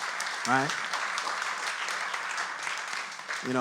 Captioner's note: audience applauds